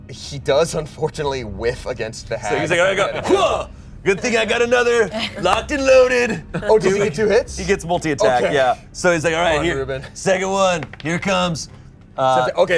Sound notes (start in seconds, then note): 2.4 yells